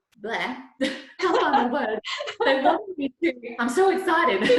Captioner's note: both laughs